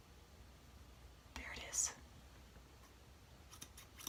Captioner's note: whispering